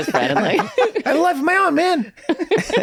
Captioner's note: laughter